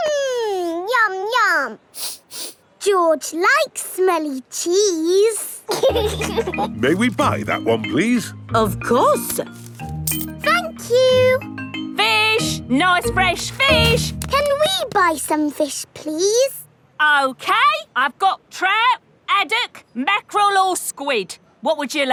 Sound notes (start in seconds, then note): 1.9 sniffs; 5.6 laughing